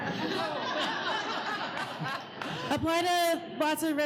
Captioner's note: laughing